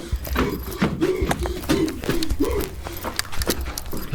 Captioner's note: Pete panting; footsteps pounding